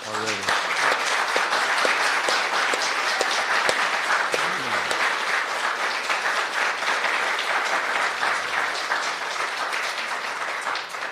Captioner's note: applause